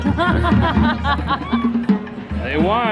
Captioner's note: loud laughter